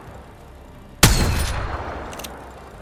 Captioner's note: sound of shooting